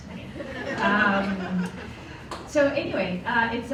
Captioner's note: laughter